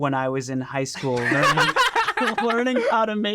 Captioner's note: group laughing